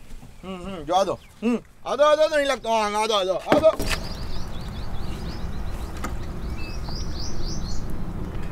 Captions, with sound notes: Yeah yeah keep going Go on go on, there's still space Go on- *Bump*